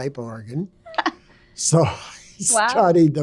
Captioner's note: laughing